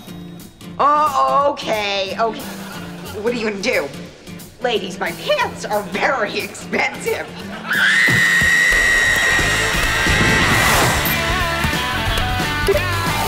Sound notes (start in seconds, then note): 7.6 screaming